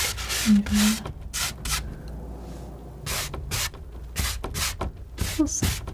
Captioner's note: tapping